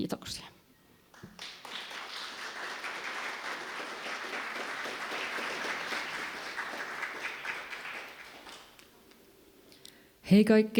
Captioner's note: applause